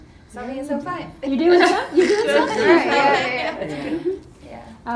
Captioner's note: laughing